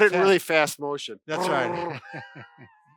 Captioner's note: laughing; rolling tongue